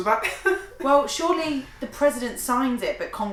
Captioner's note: laughing